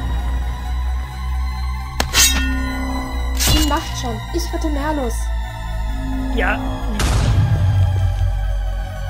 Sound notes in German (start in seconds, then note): 2.0 Schwert wird gezogen und Wache umgebracht; 6.8 Explosion